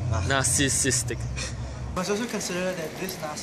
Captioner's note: sigh, then laughs